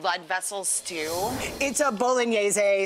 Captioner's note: whoosh and cymbal